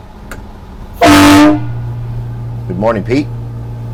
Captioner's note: horn sounding